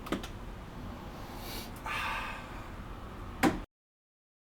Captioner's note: sniffing catnip